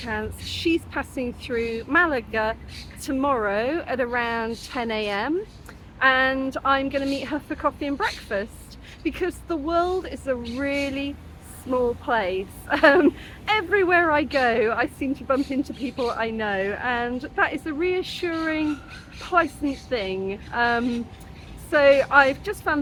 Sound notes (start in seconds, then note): 12.7 laughing